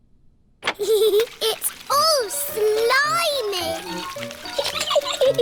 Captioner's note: giggles